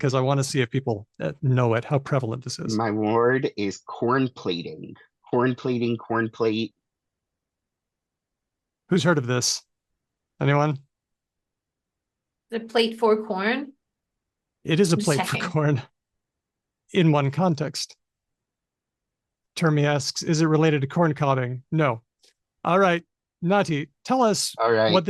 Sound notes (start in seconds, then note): 14.8 laughs